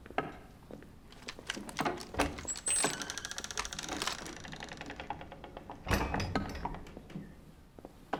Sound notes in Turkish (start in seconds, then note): 1.1 Kapı açılma sesi